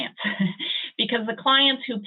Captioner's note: chuckling